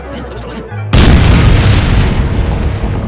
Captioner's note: ka boom!